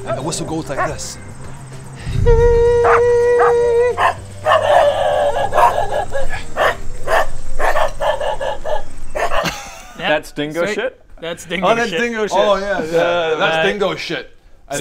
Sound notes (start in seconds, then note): 4.4 bark; 4.6 distracting barking and howling; 9.1 still barking